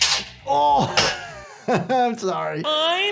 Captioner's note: band snaps; groans; laughs